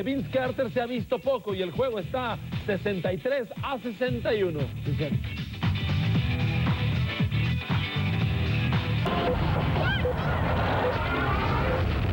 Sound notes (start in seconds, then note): 7.0 crowd cheering loudly